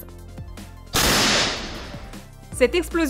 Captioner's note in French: bruits d'explosion